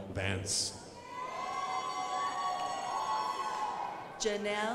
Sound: crowd applauding

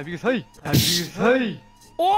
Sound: thwomp

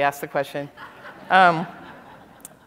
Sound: laughter

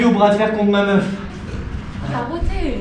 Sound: inaudible burp

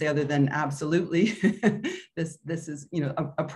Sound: chuckles

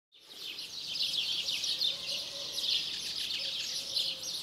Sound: birds chirping

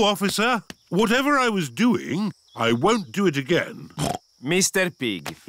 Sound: snorts

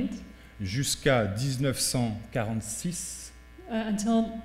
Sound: speaking french

